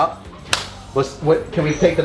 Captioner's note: claps